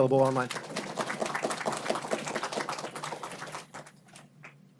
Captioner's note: audience applauds